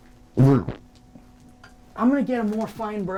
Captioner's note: low rumble